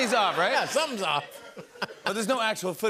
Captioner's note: laughter